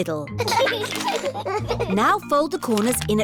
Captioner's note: both giggling